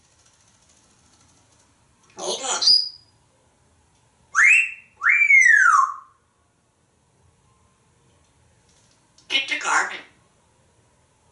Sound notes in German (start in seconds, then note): 4.4 wolf whistling